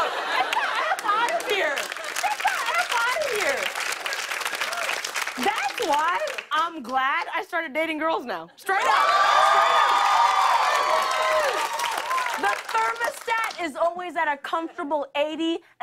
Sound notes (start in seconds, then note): 3.7 applause; 8.7 cheers and applause